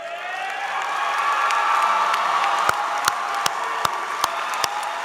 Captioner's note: applause